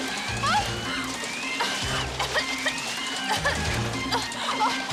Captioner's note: woman coughing